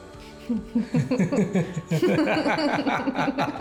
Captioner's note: both laughing